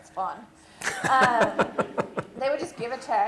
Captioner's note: laughter